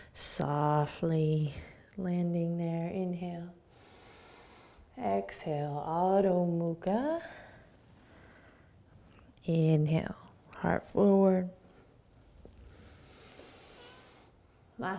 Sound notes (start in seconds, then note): 3.7 inhaling; 12.7 inhaling